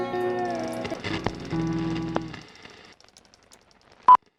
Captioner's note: static